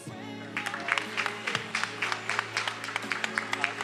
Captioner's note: attendees applauding